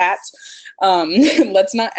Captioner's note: laughs